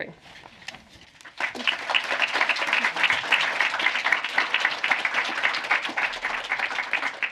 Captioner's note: applause